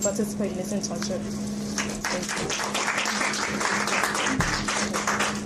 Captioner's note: audience clapping